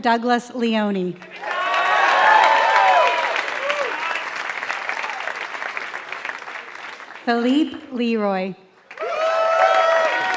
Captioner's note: applause